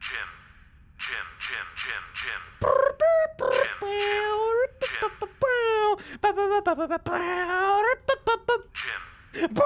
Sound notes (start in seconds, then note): 2.9 imitates dubstep music